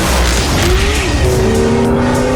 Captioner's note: tires screech